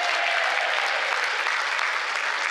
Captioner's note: cheers